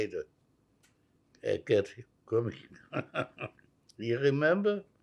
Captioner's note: laughing